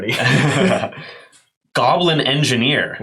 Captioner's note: both laugh